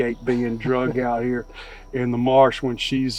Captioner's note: chuckling